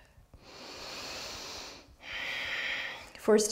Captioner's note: strong breath